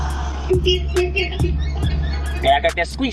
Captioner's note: car squeaking